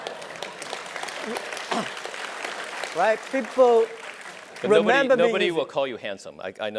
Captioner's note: laughs